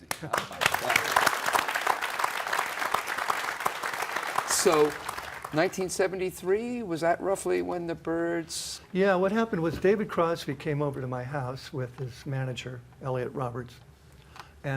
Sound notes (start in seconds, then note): 0.0 applause